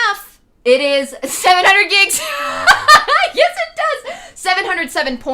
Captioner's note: laughing